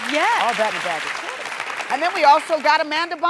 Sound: audience applauding

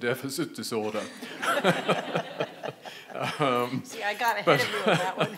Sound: audience laughing

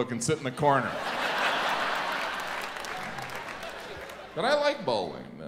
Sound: audience laughs and claps

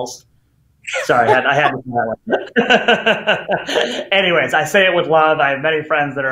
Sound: laughs

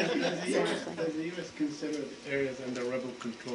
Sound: laughter

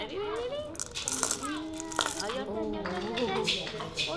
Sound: seeds crackling on wooden coconut

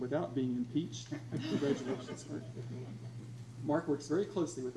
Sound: crowd laughs

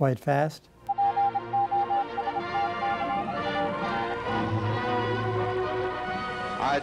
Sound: morse code being sent over a telegraph

